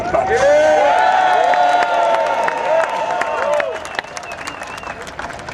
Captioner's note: cheers and Applause